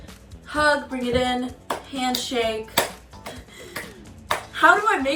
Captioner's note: hands clapping